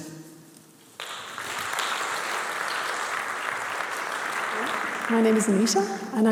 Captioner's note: applause